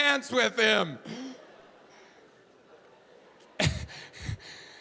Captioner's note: audience laughing